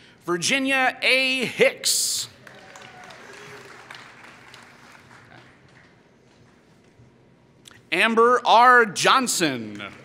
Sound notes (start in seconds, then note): 2.3 applause; 9.6 applause